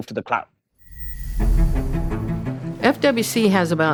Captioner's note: air whooshes